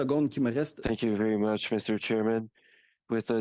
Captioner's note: speaking in French